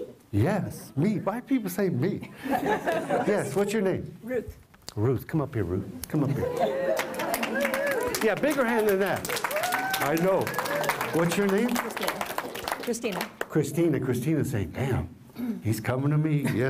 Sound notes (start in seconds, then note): 6.8 applause